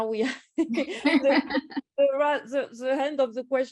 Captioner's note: both laugh